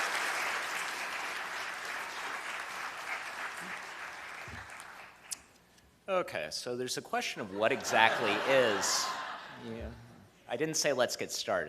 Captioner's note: cheers and applause